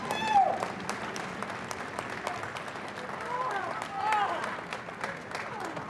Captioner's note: audience cheering and applauding